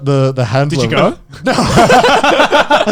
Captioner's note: laughing